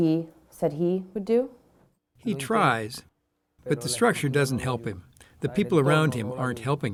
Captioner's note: through translator